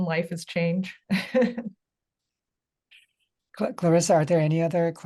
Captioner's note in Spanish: risas